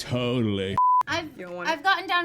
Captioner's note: beep